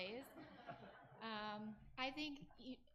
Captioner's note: audience laughs